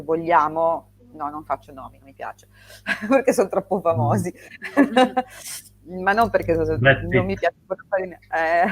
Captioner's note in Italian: risate